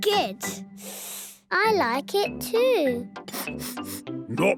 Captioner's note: sniffing; sniffs